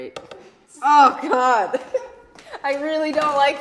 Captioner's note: laughing